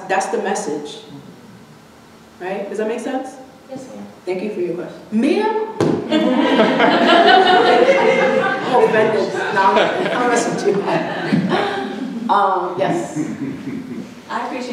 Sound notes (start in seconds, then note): 6.1 audience laughing; 12.7 laughter drowning out speech